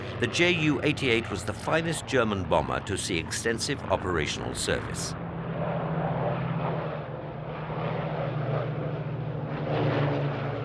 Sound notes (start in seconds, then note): 5.6 plane roaring